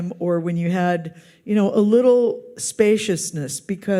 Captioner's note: none